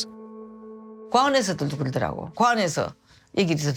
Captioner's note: speaking Korean